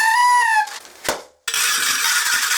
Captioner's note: pop